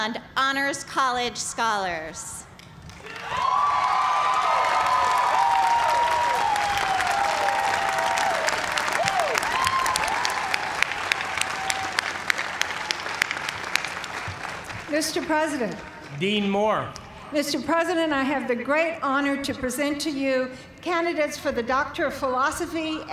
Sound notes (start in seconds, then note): 4.0 cheers and applause